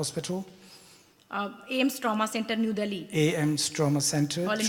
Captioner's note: speaks foreign language